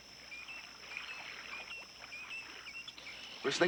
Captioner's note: water gently lapping